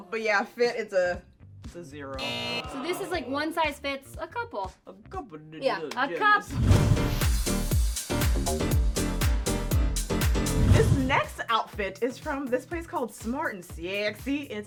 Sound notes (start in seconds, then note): 2.2 buzzer; 6.6 electronic pop music